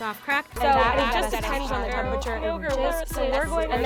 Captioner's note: voices echoing